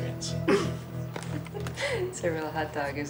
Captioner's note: laughing